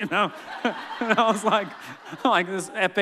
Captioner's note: laughing